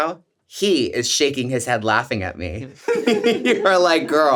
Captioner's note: laughs